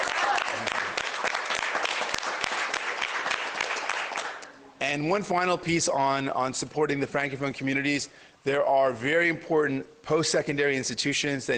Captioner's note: cheers and Applause